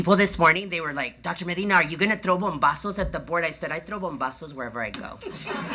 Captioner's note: laughter